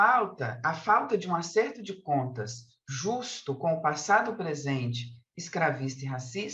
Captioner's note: continues speaking in Portuguese